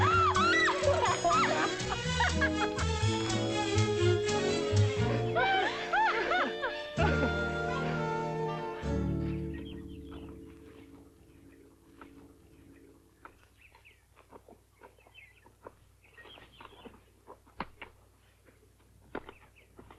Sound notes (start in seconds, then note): 0.0 Nellie laughs; 0.0 whimsical music; 0.0 both laugh; 0.3 Nellie yelps; 3.0 whimsical music